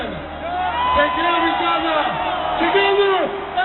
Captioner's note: shouting